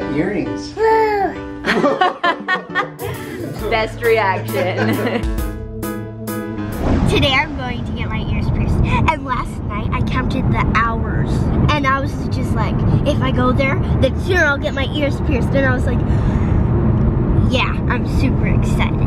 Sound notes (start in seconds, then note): 1.6 laughing